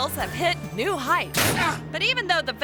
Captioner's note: head crunches